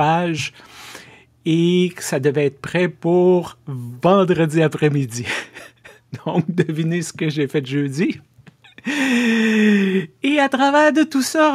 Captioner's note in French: rires